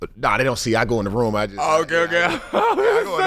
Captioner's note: laughs